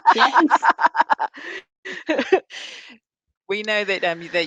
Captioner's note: all laughing